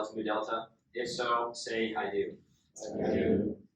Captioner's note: inductees repeat